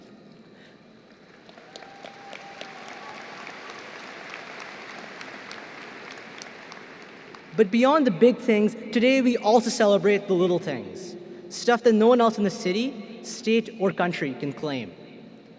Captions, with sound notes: (applause) But beyond the big things today, we also celebrate the little things; stuff that no one else in the city, state or country can claim.